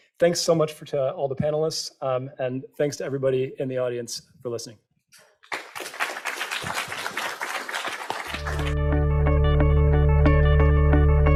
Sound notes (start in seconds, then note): 5.4 participants applauding; 8.3 bright music